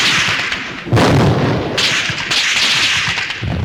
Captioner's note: bombs exploding